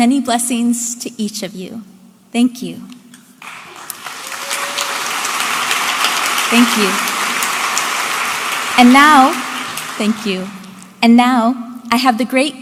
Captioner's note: audience applauding